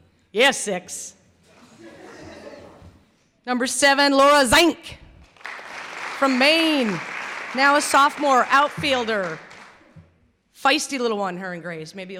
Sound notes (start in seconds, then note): 1.6 laughter; 5.2 clapping